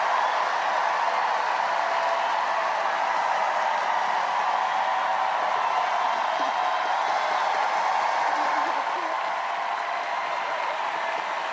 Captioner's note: cheers and applause